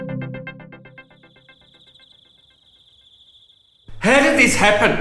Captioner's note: frog croaks